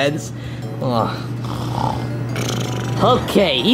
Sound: snoring

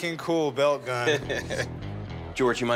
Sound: laughing

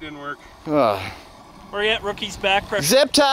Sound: sighs

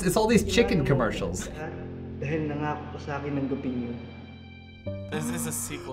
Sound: speaking Filipino

